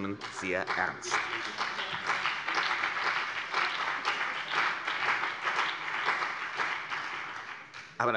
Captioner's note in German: Beifall CDU und BÜNDNIS 90/DIE GRÜNEN